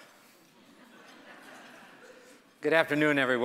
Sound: audience laughing

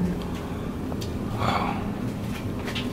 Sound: whispers

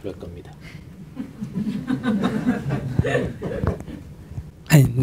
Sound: audience laughter

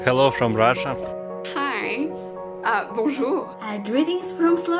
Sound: in foreign language

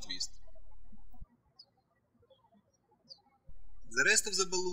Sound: birds chirping

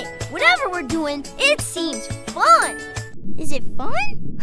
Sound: none

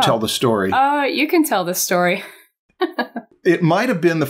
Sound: chuckles

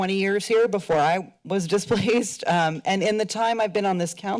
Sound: chuckles

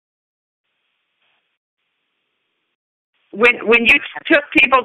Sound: silence

